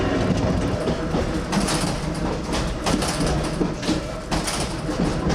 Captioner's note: trolley car banging